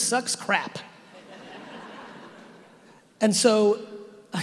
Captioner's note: audience laughing